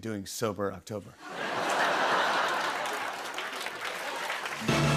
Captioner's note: laughter